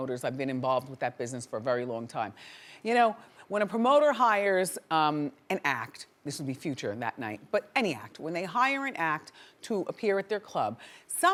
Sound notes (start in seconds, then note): none